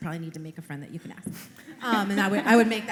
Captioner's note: laughter